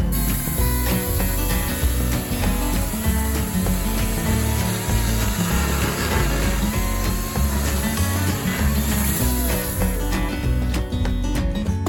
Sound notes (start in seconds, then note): 2.3 electric chainsaw sound